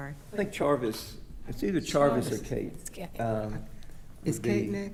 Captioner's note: speaking quietly